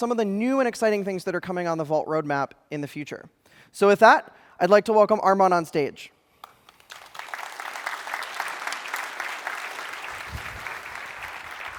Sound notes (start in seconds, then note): 6.4 applause